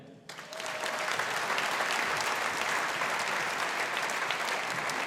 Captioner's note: audience applauding